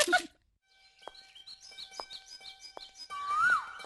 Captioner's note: birds - Chirping